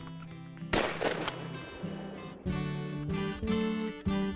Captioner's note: rifle bangs